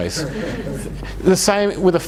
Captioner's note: audience chuckles